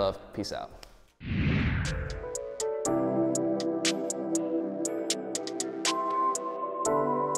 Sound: air whooshing; relaxing music

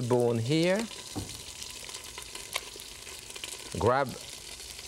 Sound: sizzling

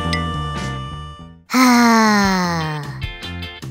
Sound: sigh

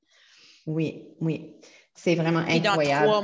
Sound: French

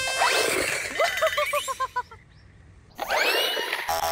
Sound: laughs

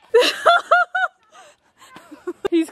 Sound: laughing

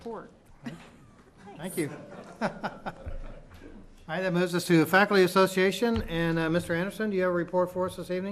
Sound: laughter

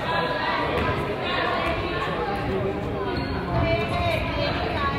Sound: crowd yells

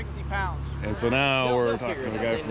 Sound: laughing

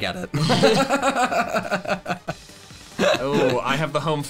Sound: laughing

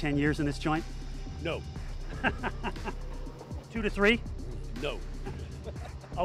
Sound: laughs

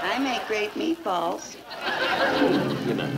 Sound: audience laughing

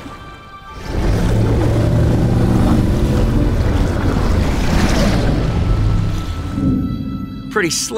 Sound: growls

